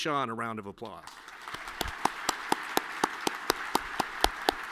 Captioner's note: all clapping